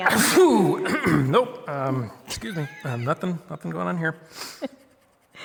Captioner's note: fake sneezes